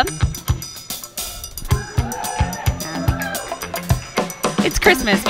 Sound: audience cheering

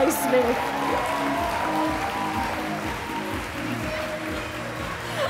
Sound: audience applaud

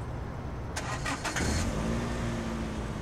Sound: engine starts

